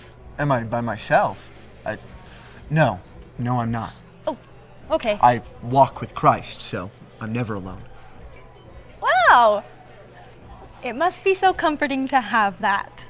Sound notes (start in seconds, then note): 9.0 overly cheerful